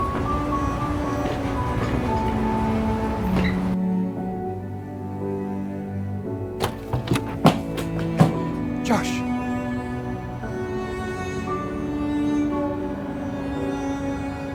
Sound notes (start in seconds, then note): 0.2 gentle music; 6.6 door rattles; 11.0 gentle music